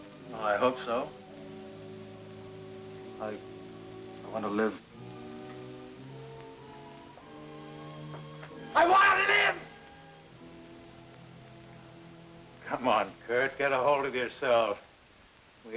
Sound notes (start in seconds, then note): 8.8 screams